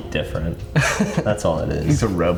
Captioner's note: laughs